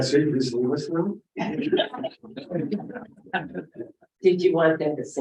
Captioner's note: laughter